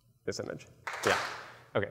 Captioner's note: claps